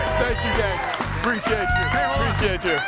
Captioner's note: audience cheers